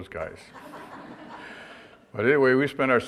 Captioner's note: audience laughter